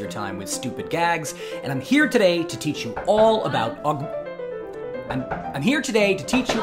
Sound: banging on door

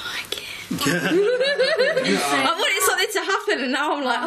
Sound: laughing

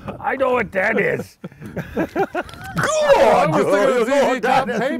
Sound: laughter

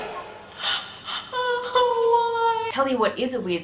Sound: sobs

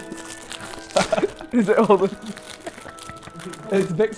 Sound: laughs

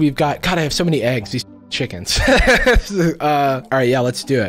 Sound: laughs

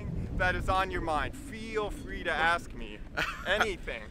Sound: laughs

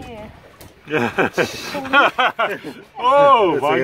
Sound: laughs

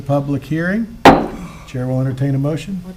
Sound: gavel taps

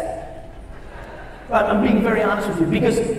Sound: audience laughs

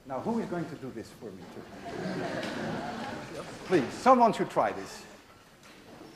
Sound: class laughs

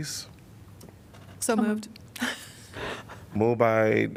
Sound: laughter

